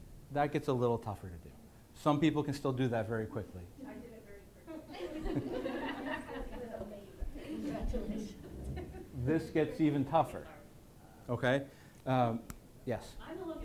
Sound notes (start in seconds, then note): 5.7 laughing accompanied by more circle drawing